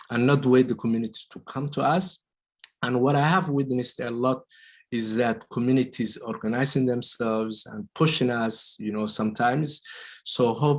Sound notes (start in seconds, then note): none